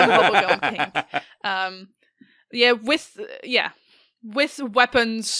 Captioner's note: laughter